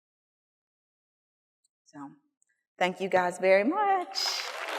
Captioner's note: applause